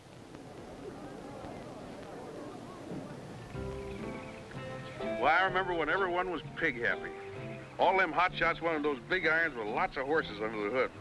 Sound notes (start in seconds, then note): 0.3 audience rumbling; 4.0 upbeat music